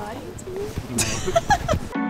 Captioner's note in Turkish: kahkahalar